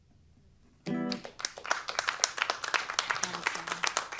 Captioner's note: applause